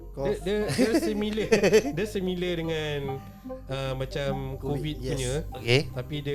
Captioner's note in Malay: ketawa